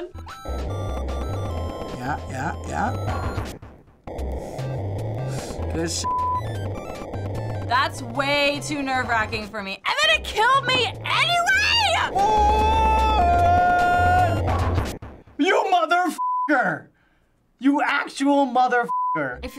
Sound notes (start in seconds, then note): 12.2 yelling